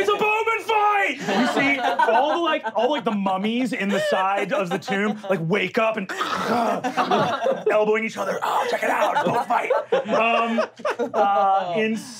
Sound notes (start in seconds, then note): 6.1 groaning; 10.2 laughing